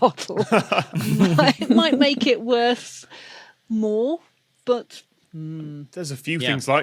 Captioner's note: group snickering